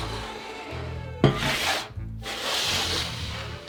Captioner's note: sheet pan sliding